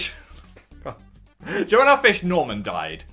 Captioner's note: laughs